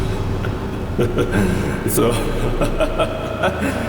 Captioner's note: laughter